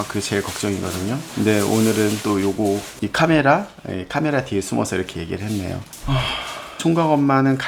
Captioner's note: sigh